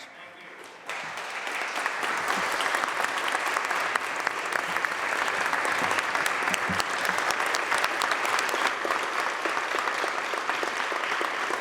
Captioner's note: applause